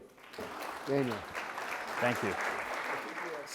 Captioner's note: audience clapping